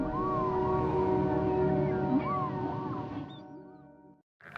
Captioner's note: whale sounds